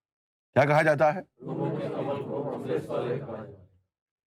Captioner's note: audience repeats